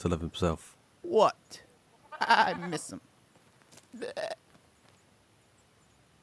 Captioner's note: bleats